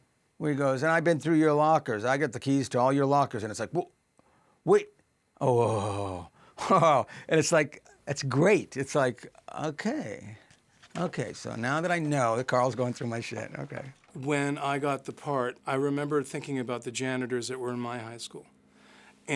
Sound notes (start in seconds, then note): 5.4 nervous groan